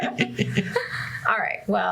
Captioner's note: laughter